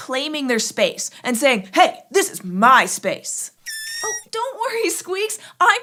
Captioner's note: squeaks squeaks